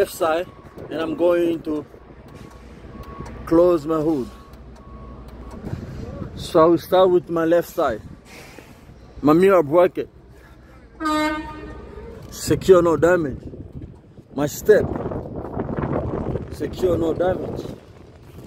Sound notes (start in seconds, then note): 8.9 beep sound